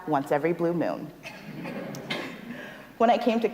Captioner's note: audience laughs